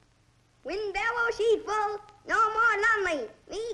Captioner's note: Chinese spoken audio